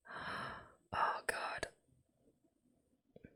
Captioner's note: whispers